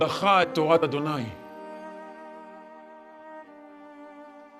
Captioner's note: speaking in Hebrew